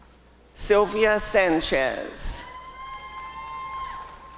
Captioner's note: applause and cheering